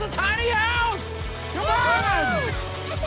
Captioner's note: cheering